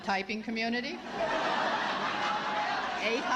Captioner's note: laughter